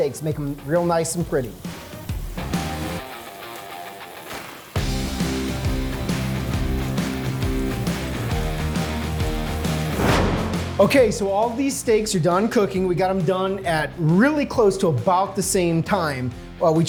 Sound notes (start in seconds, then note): 2.5 rock music; 9.5 whooshing